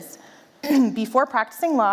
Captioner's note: clearing throat